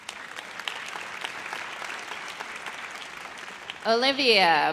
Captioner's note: audience applauds